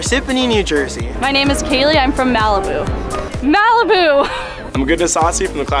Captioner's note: chuckles